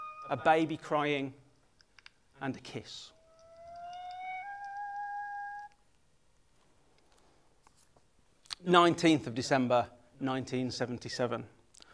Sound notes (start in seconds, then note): 5.6 music stops